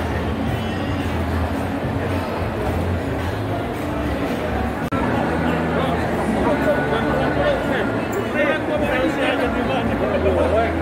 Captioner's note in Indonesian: People are talking each other